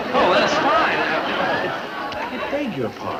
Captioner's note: audience laugh